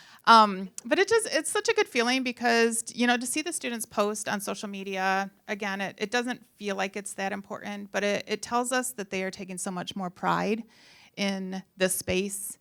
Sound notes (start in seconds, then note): none